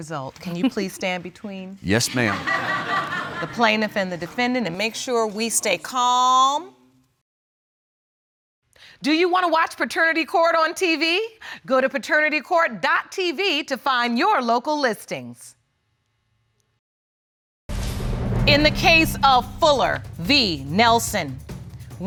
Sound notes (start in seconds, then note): 3.4 audience laughs